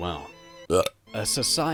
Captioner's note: burp